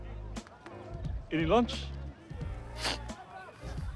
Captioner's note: snorts